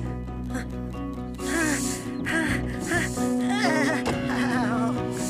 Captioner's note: straining Noises